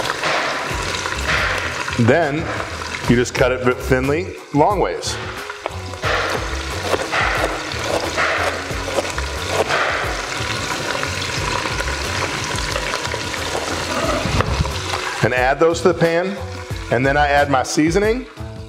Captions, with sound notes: Then, you just cut it thinly longwise. (knife crunching) And add those to the pan, and then I add my seasoning.